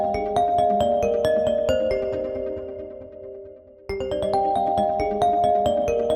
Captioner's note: "Reflection - Reflected" Ringtone Plays